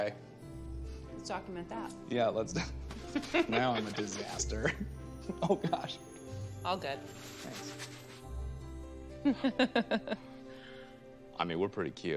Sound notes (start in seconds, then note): 2.9 both laugh; 9.2 Abigale laughing